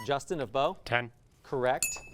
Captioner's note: ding sound